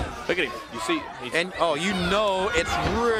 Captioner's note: crowd chatter